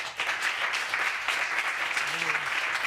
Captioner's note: applause